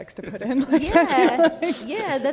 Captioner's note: laughs